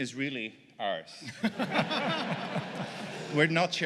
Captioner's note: laughter